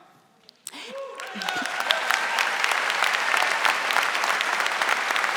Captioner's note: audience applauding